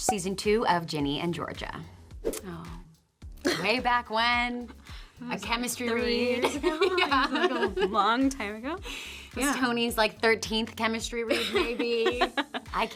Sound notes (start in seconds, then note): 2.3 air swoosh; 3.2 Toni laughs; 6.3 Brianne laughs; 11.4 Toni laughs